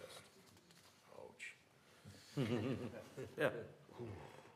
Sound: laughter

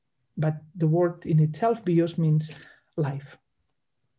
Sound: speaks in Greek

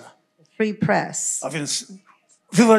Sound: foreign language

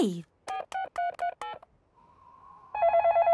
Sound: dial tones beeping; phone ringing

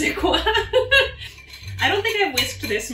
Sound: laughing

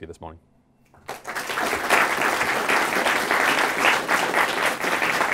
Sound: applause

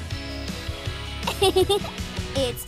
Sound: giggling

